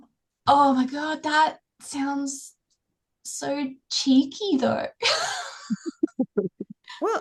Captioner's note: laughs